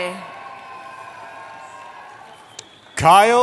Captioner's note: cheering